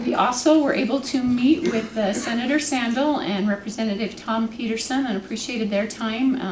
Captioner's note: clears throat